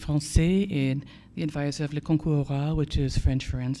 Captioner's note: foreign language; foreign language